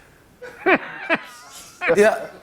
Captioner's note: laughter